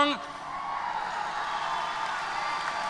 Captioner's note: applause & Cheers